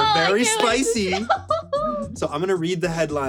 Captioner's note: chuckles